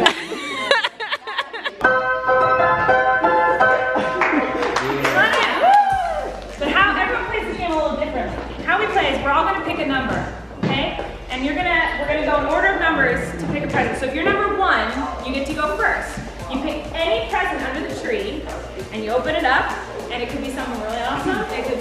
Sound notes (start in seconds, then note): 0.0 laughing; 1.8 piano music; 4.6 whooping